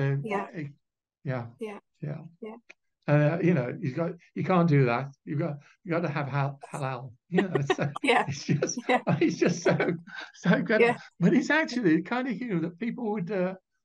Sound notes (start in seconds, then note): 7.3 laughing